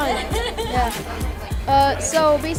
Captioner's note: laughing